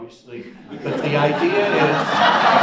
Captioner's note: audience laughs